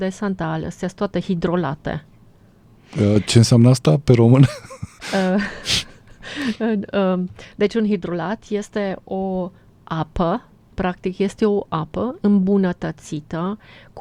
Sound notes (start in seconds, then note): 4.3 laughter